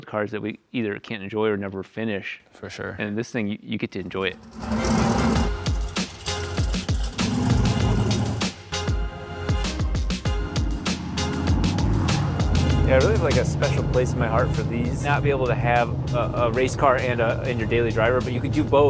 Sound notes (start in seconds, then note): 4.5 car motor and racy music